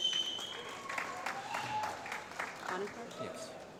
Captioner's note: applause